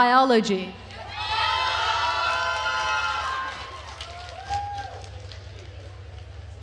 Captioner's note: attendees cheering and applauding